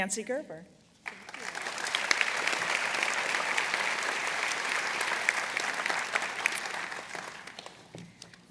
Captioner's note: applause